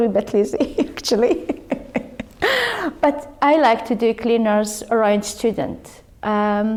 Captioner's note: laughs